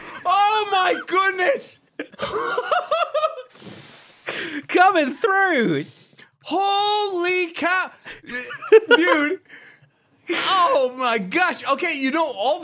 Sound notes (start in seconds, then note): 2.0 both laugh